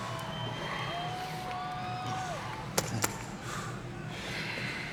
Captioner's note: audience cheers